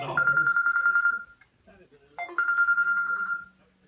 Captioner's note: phone ringing